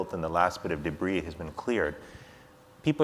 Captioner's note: none